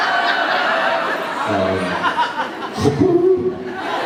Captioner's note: laughs